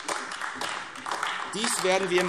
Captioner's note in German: Beifall AfD